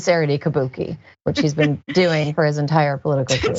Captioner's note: laugh